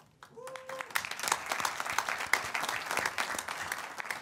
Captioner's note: audience applauds